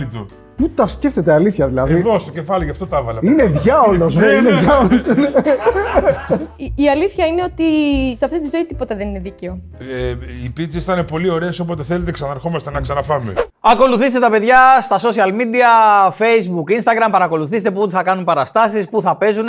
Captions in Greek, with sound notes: Πού τα σκέφτεται, αλήθεια, δηλαδή. Εγώ στο κεφάλι γι' αυτό τα έβαλα. Είναι διάολος, ρε. Είναι διάολος. (γέλια) Η αλήθεια είναι ότι σε αυτή τη ζωή τίποτα δεν είναι δίκαιο. Οι πίτσες ήταν πολύ ωραίες. Όποτε θέλετε ξαναρχόμαστε να ξαναφάμε. Ακολουθήστε τα παιδιά στα social media. Facebook, Instagram. Παρακολουθήστε πού θα κάνουν παραστάσεις, πού θα παίζουν.